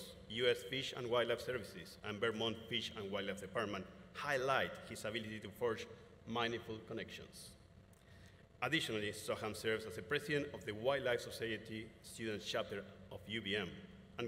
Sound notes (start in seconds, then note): none